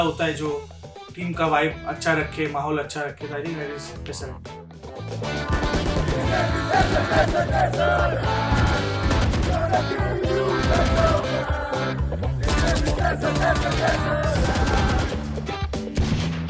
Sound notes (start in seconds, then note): 6.3 chants